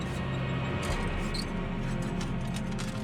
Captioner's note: metal rattling